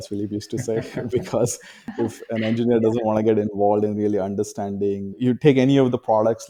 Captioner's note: both laughs